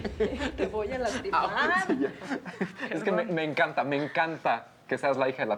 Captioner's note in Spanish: Risas